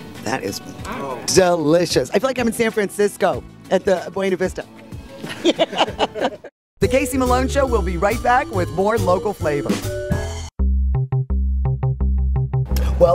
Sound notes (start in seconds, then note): 5.1 everyone laughs; 10.4 upbeat music